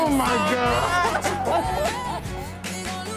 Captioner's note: both laughing